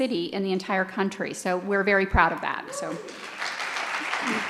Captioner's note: cheers and applause